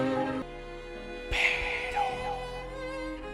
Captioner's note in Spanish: susurrando